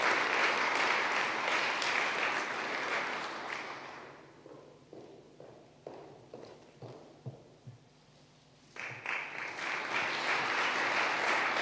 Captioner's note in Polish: oklaski